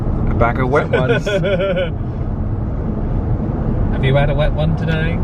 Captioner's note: laughs